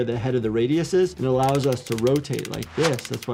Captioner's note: machine ratchets